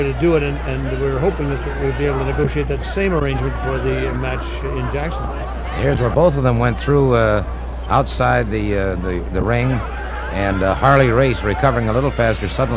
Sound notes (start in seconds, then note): 5.0 wrestler grunting; 9.7 audience cheering